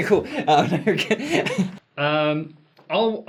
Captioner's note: laughs